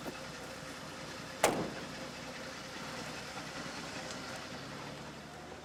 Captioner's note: car door slams